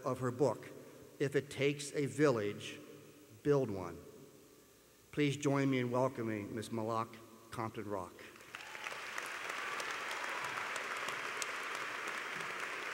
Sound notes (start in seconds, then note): 8.3 applause